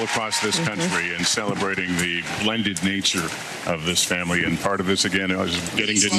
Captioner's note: applause